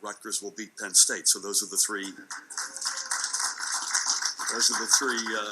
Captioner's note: audience clapping